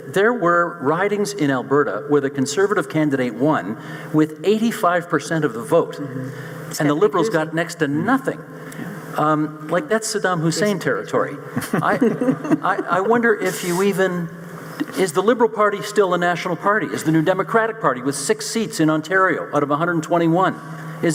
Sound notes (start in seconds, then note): 11.6 panel chuckling